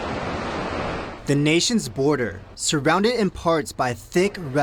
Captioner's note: people talking near wall